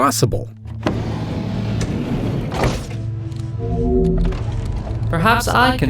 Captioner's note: large doors sliding open